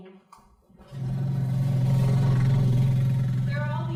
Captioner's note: engine revs